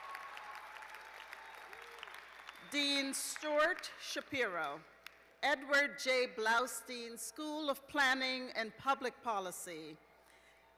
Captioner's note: cheers and applause